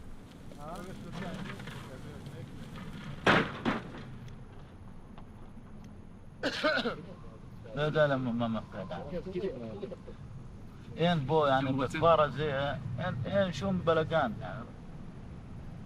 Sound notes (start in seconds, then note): 6.4 coughing; 7.7 speaking foreign language